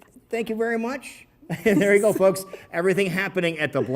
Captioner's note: laughs